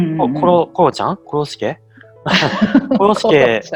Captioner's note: laugh